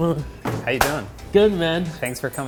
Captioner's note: hands clap